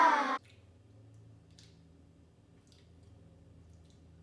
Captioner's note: children cheering; chewing loudly